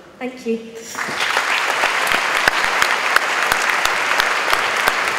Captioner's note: audience applauds